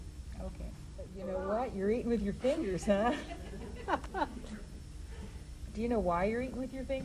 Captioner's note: laughs